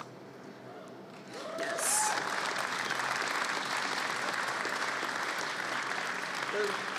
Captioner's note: applause